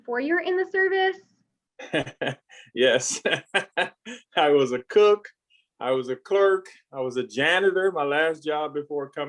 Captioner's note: laughs